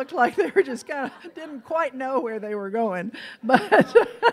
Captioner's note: laughs